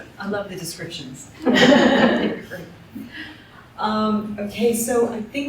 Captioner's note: laughter